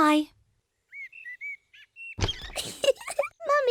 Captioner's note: birds chirping; giggles